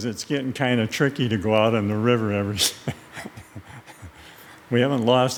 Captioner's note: laughs